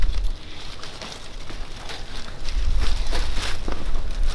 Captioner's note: wire mesh crackling